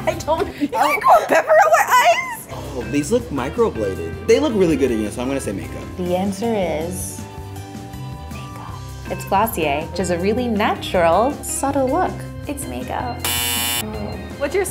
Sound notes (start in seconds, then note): 13.2 buzzer buzzes